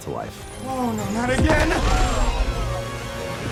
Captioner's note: crowd gasps